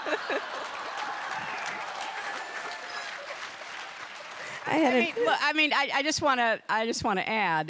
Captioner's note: applause